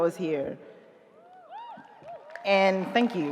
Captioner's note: audience cheering